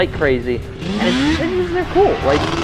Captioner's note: Banshee engine revving